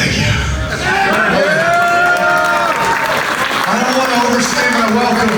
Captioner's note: audience cheers